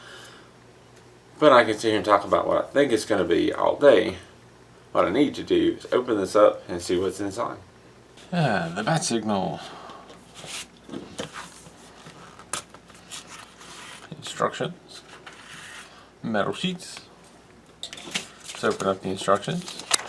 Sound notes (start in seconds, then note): 12.4 tearing